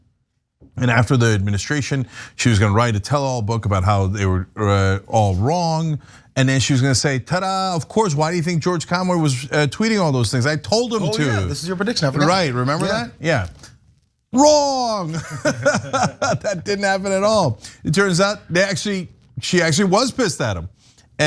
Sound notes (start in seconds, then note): 15.1 laugh